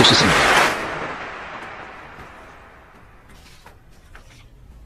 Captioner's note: applause